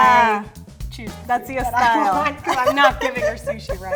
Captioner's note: laughs